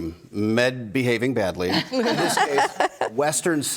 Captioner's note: group laughs